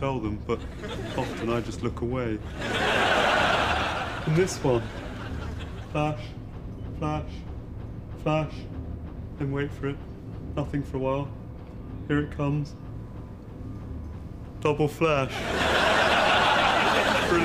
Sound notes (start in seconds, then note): 2.3 audience laughs; 15.2 audience laughs